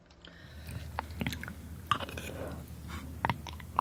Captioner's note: crunching